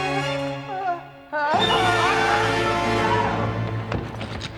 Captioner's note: screams